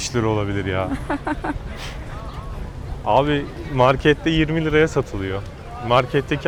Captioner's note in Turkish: kahkaha